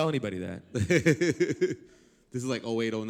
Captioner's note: laugh